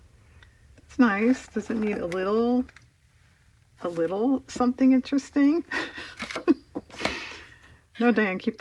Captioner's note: laughs